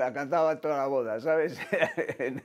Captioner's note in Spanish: Ríe